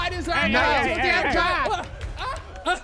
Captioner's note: gasping